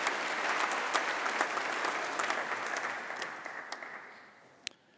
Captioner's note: applause